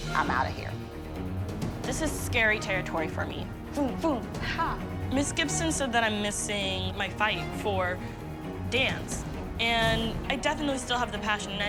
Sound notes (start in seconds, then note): none